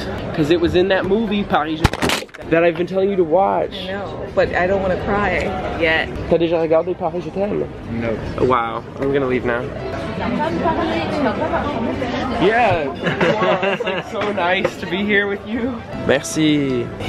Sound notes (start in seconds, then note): 1.8 camera crashing; 6.4 speaking in foreign language; 15.7 speaking in foreign language